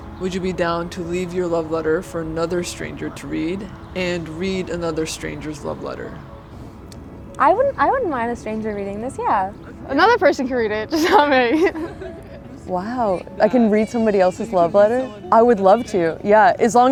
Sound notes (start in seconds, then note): 10.9 laughing